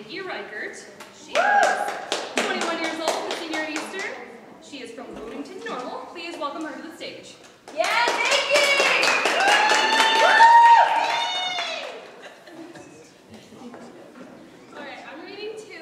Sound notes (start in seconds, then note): 7.8 audience applause